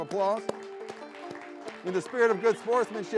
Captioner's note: audience clapping